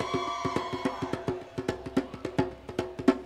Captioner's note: cheering